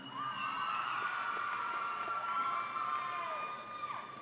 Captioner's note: audience cheering